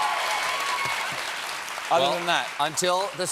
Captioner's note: cheers and applause